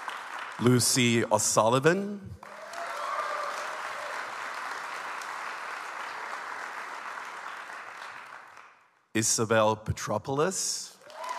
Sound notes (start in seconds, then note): 2.4 audience applauds